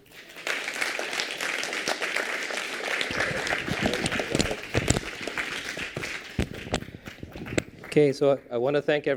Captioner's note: applause